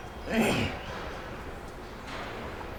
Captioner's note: clears her throat